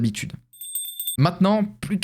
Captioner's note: sound of bells